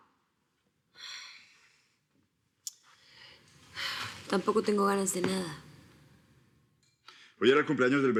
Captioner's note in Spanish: Ella exhala